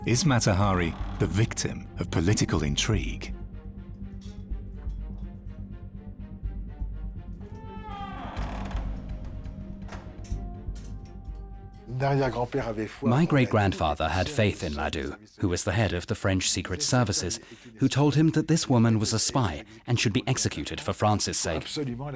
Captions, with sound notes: Is Mata Hari the victim of political intrigue? [door creaks] [keys rattle] My great-grandfather had faith in Ladoux, who was the head of the French secret services, who told him that this woman was a spy and should be executed for France's sake.